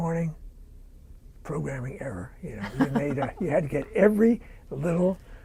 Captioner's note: laughter